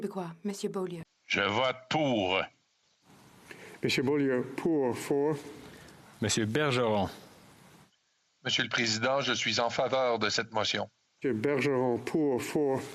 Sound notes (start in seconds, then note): 1.1 speaking french